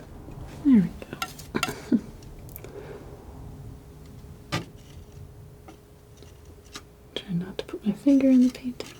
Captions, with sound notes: There we go. (chuckles) (scratching) Try not to put my finger in the painting.